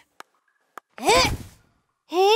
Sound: grunting

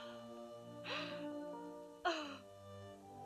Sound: crying

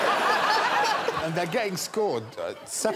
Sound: laughter

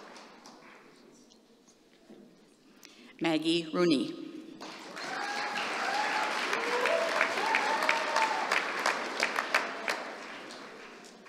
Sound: applause

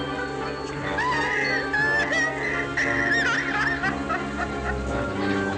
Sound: cackling Continues

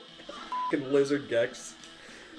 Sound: beep

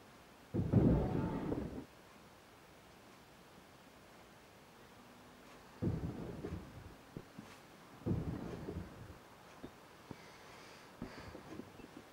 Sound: smashing from downstairs

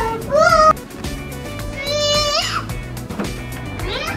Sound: yells

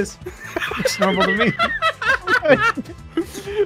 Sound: laughs; laughing

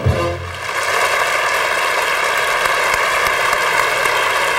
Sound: audience applauding

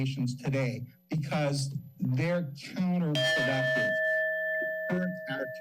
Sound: timer dings

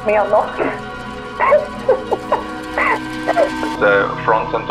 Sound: laughing

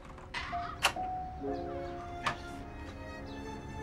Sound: door creaks

